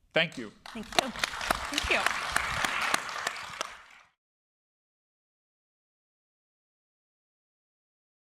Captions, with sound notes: Thank you. >> Thank you. >> [APPLAUSE]